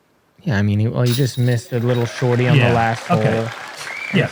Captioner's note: applause